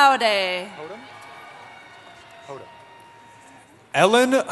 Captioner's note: cheering